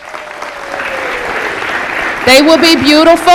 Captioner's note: applause